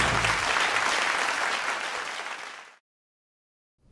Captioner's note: applause